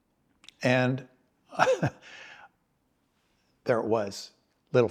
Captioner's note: laughs